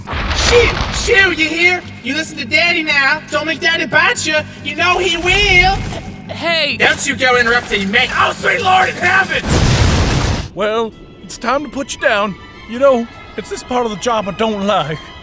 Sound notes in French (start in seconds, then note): 9.4 blam